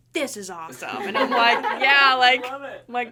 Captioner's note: everyone laughing